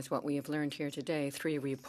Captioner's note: speaking French